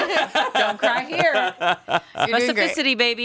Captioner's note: all laughing